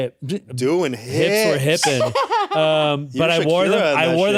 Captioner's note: laughs